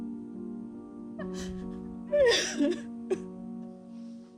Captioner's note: crying